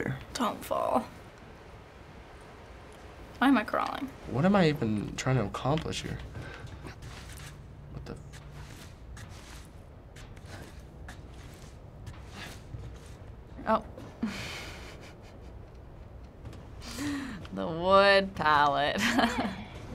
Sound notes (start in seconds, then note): 8.4 shuffling footsteps; 14.1 chuckles softly; 19.0 laughs